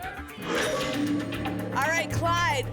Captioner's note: lock sound